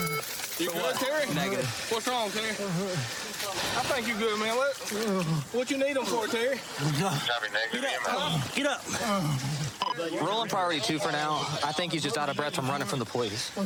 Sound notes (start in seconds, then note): 6.7 panting